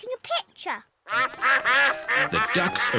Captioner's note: quacking